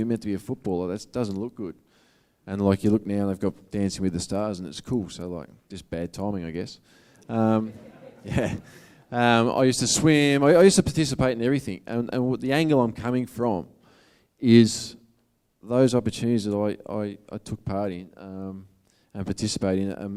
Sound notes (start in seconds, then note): 7.4 audience laughing